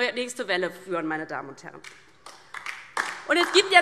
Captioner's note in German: Beifall DIE LINKE